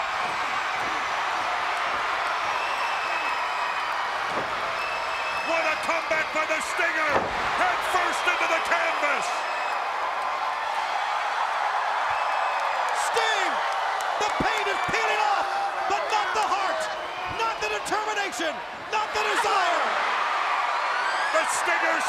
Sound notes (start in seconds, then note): 0.3 crowd cheering; 9.4 crowd cheering